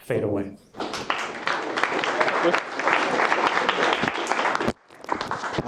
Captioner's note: attendees clapping